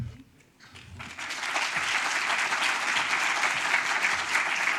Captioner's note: audience applauds